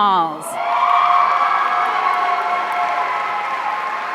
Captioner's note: audience cheering